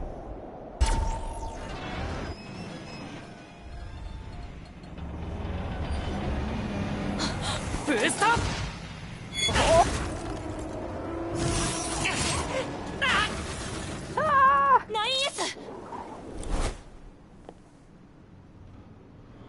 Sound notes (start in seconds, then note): 6.6 gasp